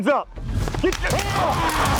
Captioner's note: gunshots firing; yelling